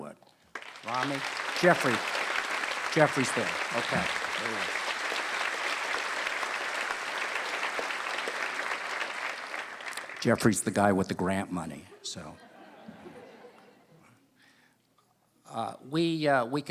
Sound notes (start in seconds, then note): 3.8 applause; 15.3 laughter